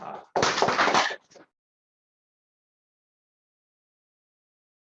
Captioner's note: applause